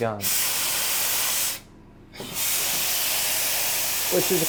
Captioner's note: loud spraying